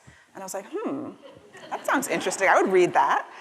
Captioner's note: laughter